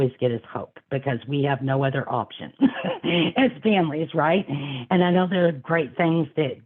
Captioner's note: laughing